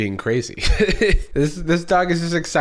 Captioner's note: chuckles